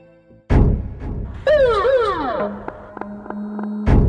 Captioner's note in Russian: полицейский гудок